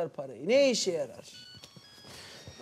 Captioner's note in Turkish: Telefon zili sesi